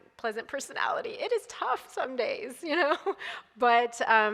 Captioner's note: laughs